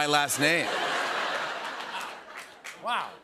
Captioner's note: laughter